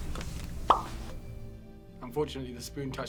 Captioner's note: spoon clicks; animation pops